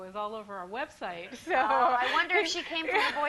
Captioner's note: laughs